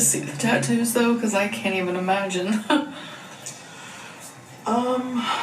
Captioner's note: chuckles